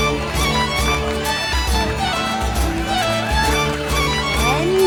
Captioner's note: cheering and applauding